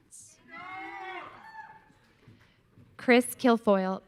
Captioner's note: audience cheering